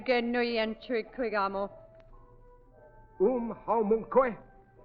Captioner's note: speaking foreign language